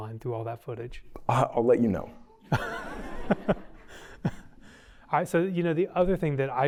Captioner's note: laughter